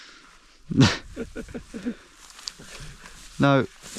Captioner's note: laughing